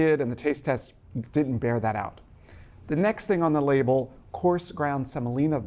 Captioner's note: none